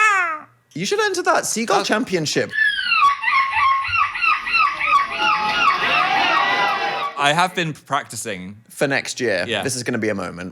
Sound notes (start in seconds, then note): 2.5 person imitating seagull